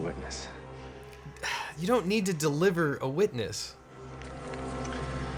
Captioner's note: scoffs